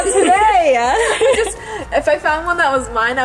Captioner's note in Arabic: كلاهما يضحك